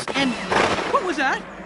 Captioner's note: bang